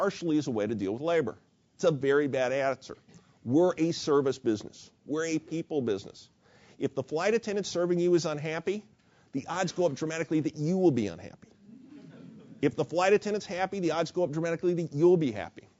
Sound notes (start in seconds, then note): 11.6 laugh